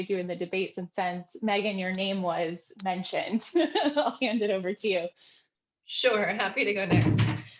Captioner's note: laughter